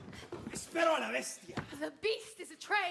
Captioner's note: speaking Spanish